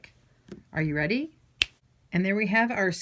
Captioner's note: fingers snapping